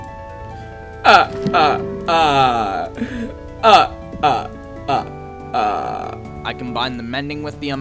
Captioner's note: another demonic fake laugh